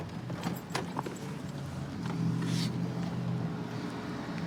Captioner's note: distant traffic hum